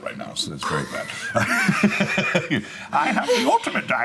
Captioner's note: laughing